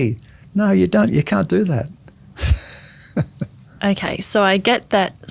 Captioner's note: laughs